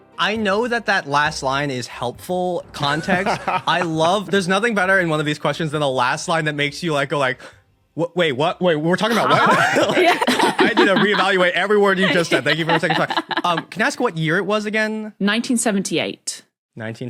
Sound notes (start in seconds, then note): 2.8 laughs; 9.0 group laughing